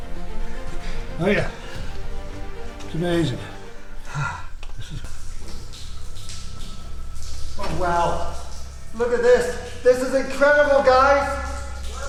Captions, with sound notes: - Oh yeah. It's amazing. (water droplets trickling) - Wow. Look at this. This is incredible guys.